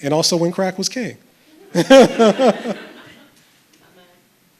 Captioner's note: chuckles